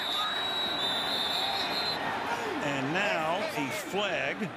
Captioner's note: whistle